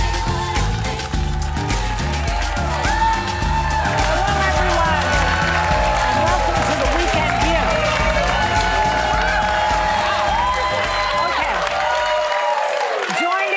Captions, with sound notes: (upbeat music) - Hello everyone. (audience cheering) Welcome to The Weeknd Show. (audience cheering)